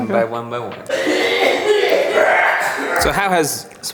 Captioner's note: raucous coughing